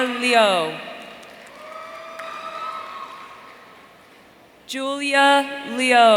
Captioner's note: audience cheering